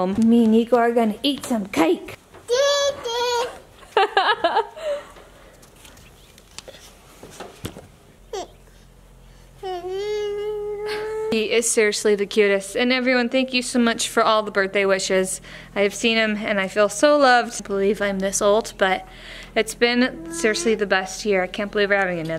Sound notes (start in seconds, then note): 2.4 babbling; 3.8 laughs